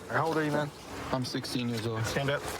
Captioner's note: none